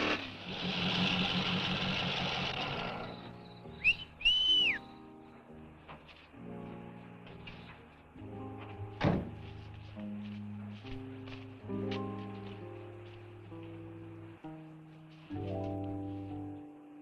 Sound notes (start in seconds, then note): 2.9 Chase whistles; 6.0 gentle music